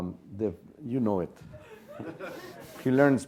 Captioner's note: laugh